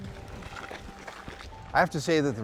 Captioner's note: feet stomping